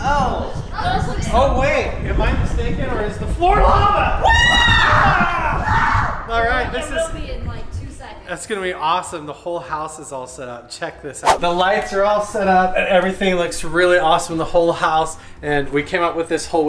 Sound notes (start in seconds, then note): 4.2 screaming